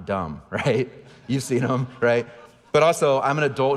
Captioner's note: audience laughing